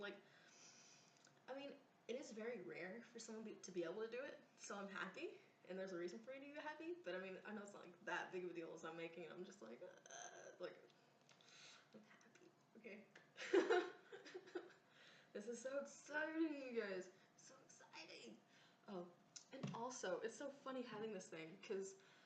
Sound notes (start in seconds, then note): 0.3 inhales; 11.4 thumbs up, sharp inhale; 13.4 laughs